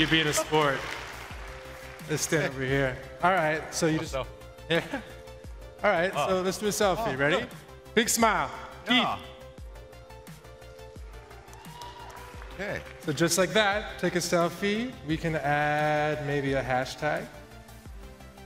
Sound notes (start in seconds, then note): 3.0 applause; 15.7 applause